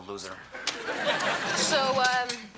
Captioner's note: audience laughing